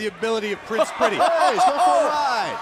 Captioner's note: crowd chatter